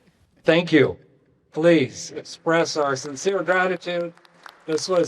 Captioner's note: applause